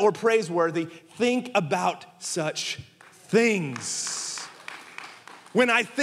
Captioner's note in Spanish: congregación aplaudiendo